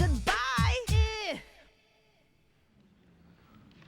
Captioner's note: makes short "i" sound